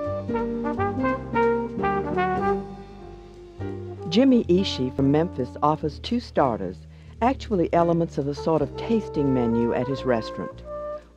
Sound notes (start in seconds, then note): 0.0 upbeat jazz music; 3.6 voiceover